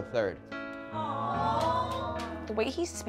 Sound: audience awws

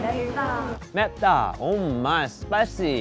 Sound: speaking Korean

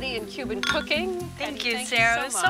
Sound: bottles clink

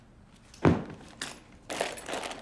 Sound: thud; rustling

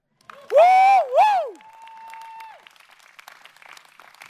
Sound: excited yell

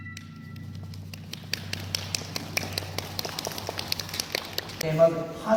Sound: clap clap clap

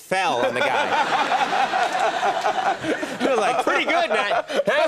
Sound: laughter

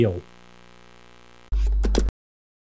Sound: buzz, Click

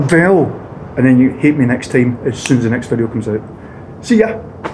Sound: snaps

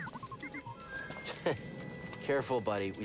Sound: laugh

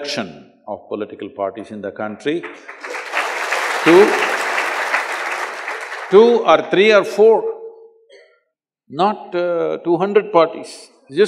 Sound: applause

